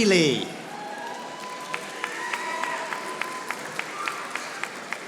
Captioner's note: audience applauding